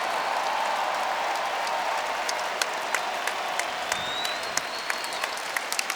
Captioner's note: crowd cheering and applauding